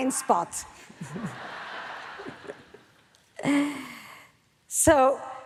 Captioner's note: audience laughs